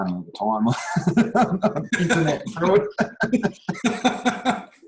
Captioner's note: laughter